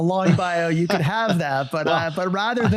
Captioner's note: guy chuckling